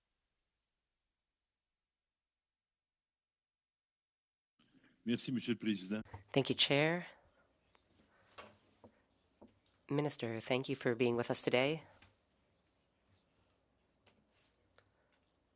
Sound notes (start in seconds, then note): 0.8 speaking French